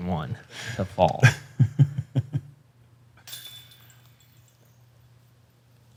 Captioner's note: chuckles